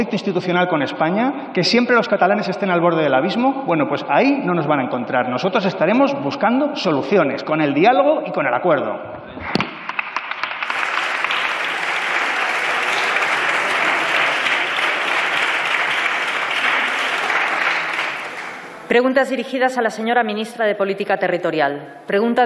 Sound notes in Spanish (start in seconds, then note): 8.7 Aplausos